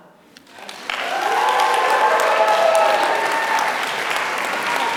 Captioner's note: applause